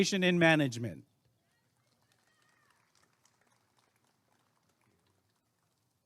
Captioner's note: applause and cheering